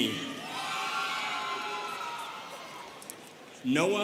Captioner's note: students cheering